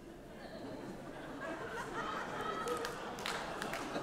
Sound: audience laughing

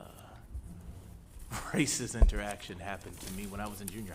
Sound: chuckles

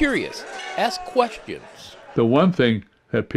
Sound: laughs

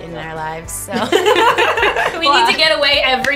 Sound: laughter

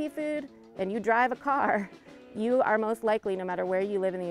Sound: laughing

